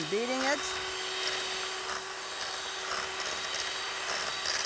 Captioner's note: beater grinding